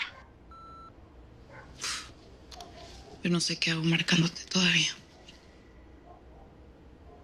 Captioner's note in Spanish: Pitido